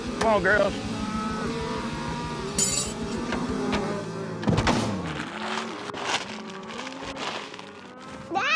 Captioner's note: cows moo